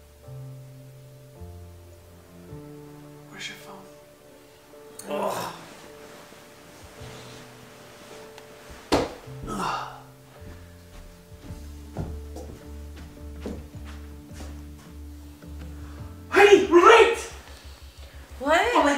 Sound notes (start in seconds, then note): 5.0 dad groaning; 7.9 gentle music